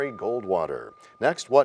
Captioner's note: bell rings, time expires